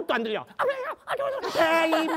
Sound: mumbling

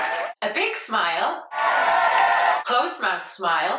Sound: crowd cheers; crowd cheers

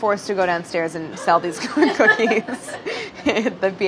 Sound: laughing

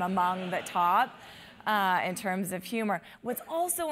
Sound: laugh

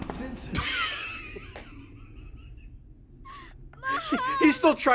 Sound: laughs

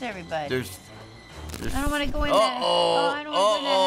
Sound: static

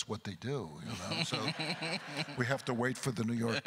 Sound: laughs; crowd laughter

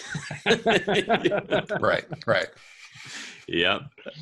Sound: all laugh

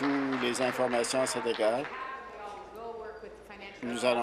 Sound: applause

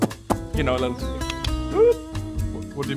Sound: whooooo cluk cluk pph pph; click click whoop

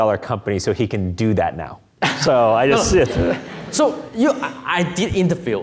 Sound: laughing

